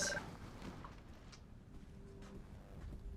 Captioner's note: beep-beep